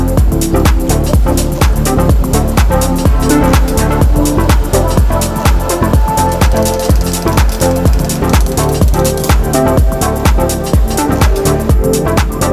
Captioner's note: tapping